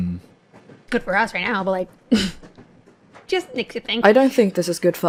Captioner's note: chuckles